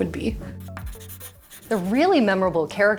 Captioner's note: pencil scratching